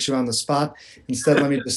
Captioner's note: laughter